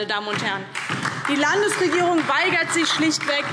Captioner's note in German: Beifall DIE LINKE